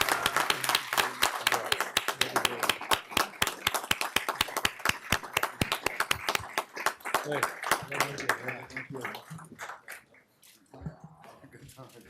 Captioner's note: applause